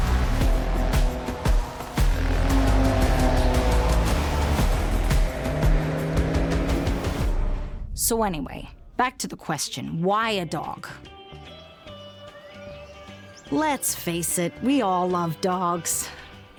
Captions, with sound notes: (engine roaring) (dramatic music continues) So anyway, back to the question, why a dog? (bright music) (birds chirping) Let's face it, we all love dogs.